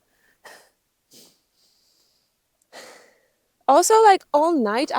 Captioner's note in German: seufzt